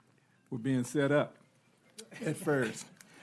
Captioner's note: laughing